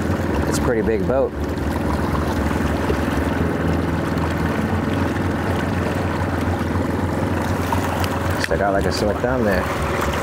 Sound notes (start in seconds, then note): 1.6 engine droning; 1.6 gentle music continues; 10.0 engine droning; 10.0 gentle music continues